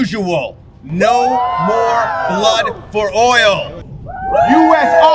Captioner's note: crowd cheering